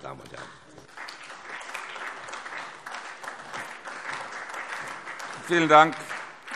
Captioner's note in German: Beifall SPD